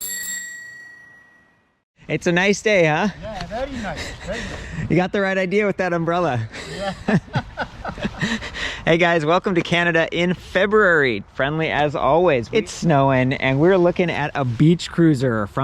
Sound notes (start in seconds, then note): 0.0 bell chimes; 6.5 laughs loudly